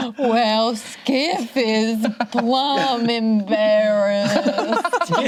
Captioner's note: both laughing; inhales; group laughs